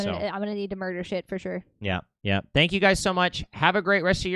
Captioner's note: none